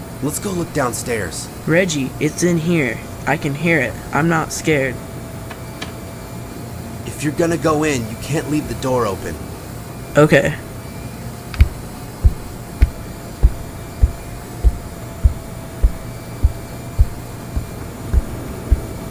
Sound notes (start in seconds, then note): 14.3 footsteps